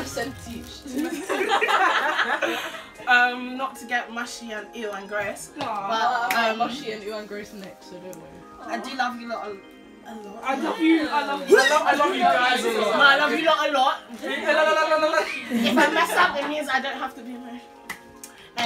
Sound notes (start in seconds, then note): 1.0 laughter; 10.9 gags